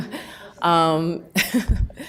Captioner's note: person speaks off microphone in the background; laughs